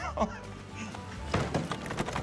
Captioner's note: laughs